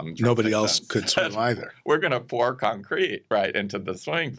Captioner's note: chuckles